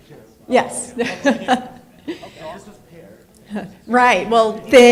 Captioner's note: laughs